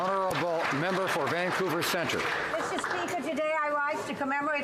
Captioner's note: some Applause